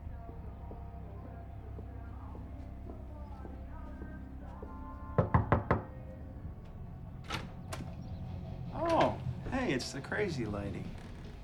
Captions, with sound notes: (footsteps thumping) (door knocks) (door latch clicks) - Oh, hey, it's the crazy lady.